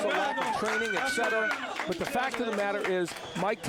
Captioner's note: applause